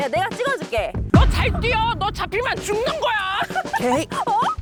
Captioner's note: In Park Boyoung’s voice